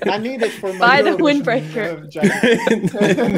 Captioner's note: laughing